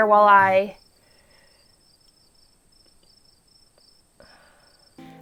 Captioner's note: crickets chirping